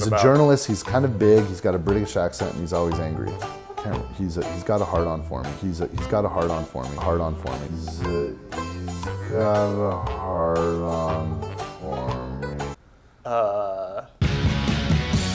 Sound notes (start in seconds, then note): 8.7 slowed speech